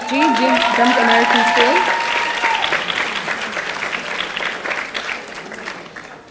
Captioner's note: audience cheering